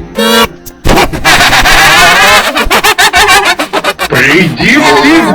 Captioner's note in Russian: Глупо смеётся